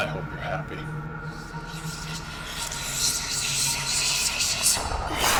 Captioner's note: whispering